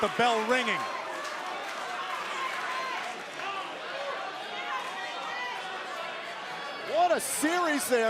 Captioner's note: crowd chatter